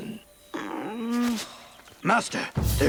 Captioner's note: groaning